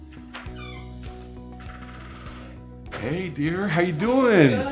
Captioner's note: door creaking